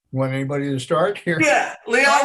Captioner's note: laughs